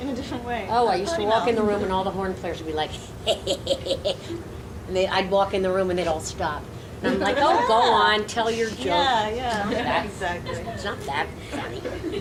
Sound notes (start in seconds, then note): 3.2 imitates crude laughing